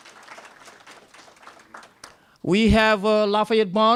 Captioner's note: applause